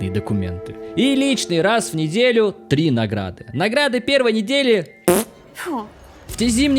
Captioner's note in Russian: звук пердежа